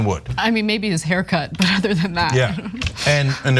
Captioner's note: laugh